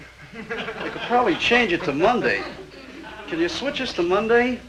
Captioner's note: audience tittering